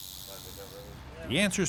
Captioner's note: rattler sounds